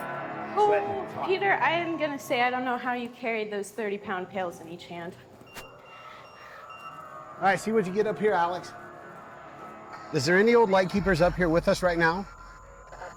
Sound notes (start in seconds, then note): 5.3 EMF beeping